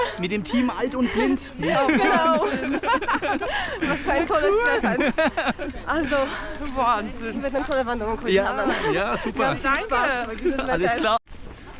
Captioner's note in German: lacht